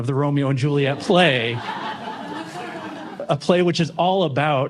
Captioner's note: laughter